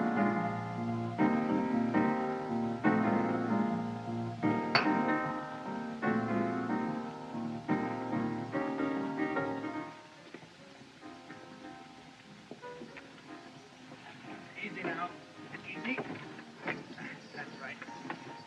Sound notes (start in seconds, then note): 4.7 glass Clinks On Counter; 10.0 piano Continues